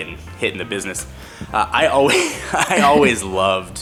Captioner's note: both laugh